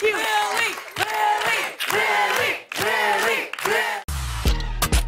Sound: All chanting "Lilly"

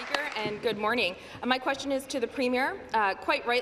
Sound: some Applause

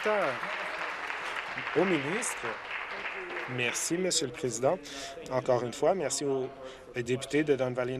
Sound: some Applause

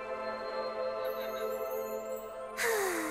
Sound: sighs

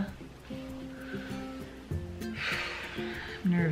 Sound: breathes loudly

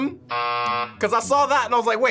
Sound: buzzer rings

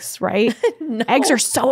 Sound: laughs

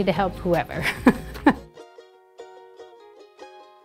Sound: chuckling; bright music

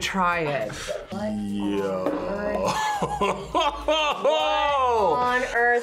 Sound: laughs

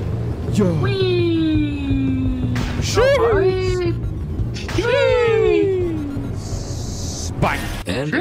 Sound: make happy playground noises

